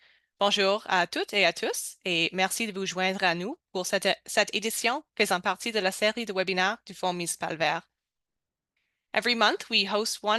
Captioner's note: speaking french